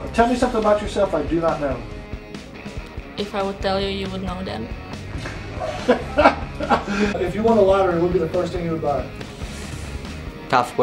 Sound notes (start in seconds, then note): 5.6 laughing off-camera